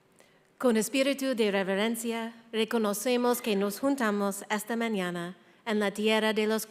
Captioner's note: speaking in foreign language